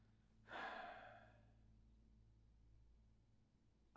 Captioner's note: sighing